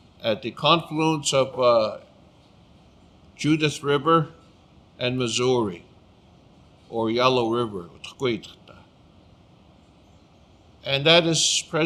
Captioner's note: speaking Blackfoot